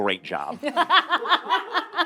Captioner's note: all laughing